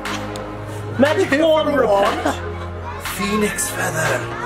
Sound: laughs

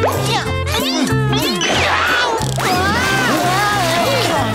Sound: screaming

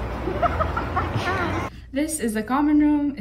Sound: laughter

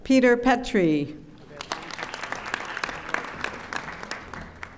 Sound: audience applauding

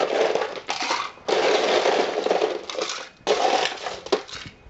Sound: sound of scooping ice

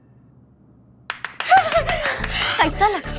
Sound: clapping

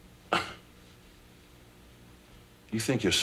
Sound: scoffs

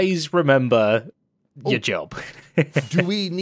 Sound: laughs

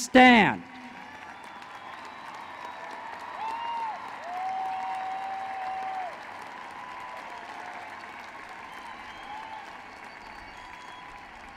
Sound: applause

